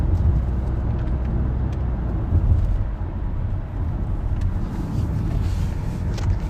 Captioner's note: wait for it- there's some turn signal sounds upcoming